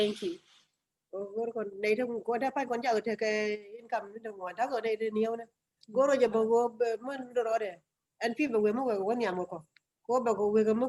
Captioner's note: speaking in another language/ Interpretation